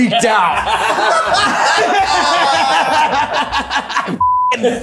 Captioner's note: everyone laughing